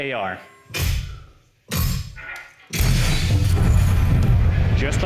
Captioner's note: explosion noise